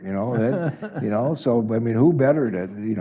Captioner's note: chuckles